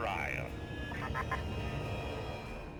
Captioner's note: laughing